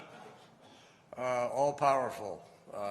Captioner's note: laughter